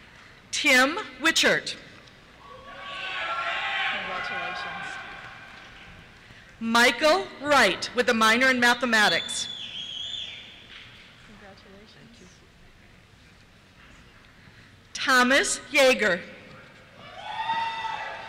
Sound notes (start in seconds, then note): 2.4 cheers; 9.8 cheers; 17.0 cheers